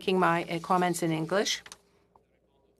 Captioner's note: speaking French